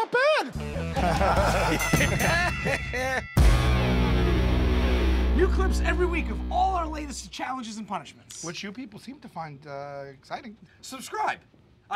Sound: laughter; ding!

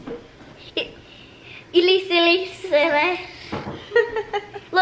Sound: giggles; laughs

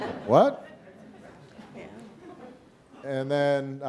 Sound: audience laughing

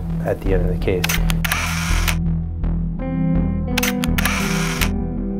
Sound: camera shuttering

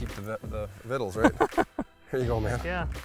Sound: laughs; pat

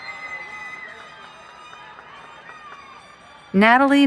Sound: cheering

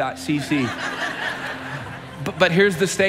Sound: congregation chuckling

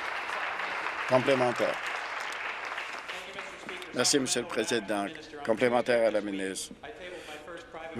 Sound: applause

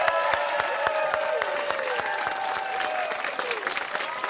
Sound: cheers and applause

